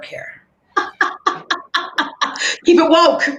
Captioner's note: laughing